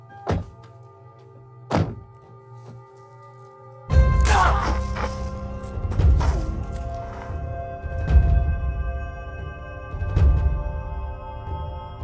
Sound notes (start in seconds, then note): 3.9 gunshot fired; 4.2 Jerry screaming in pain